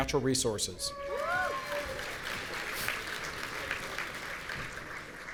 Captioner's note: audience applauding